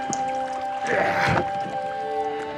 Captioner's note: grunting